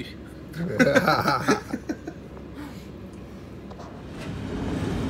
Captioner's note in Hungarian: Nevetés